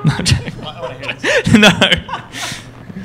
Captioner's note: laughter